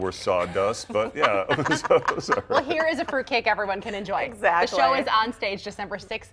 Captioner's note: laughter